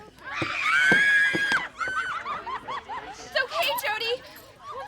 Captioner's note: Wendy screaming